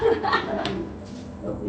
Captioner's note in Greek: Γέλια